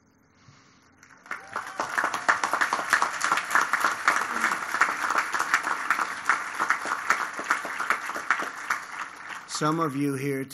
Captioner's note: applause